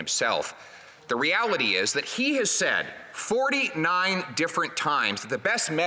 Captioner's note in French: voix de l'interprète